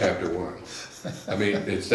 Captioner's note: laughs